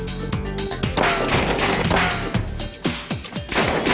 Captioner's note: gunfire